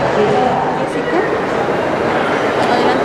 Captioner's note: in Spanish